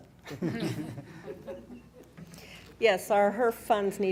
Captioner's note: laughing